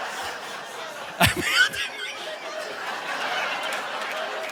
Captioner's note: audience laughing; chuckles; audience laughing